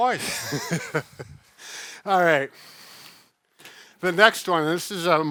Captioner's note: laughing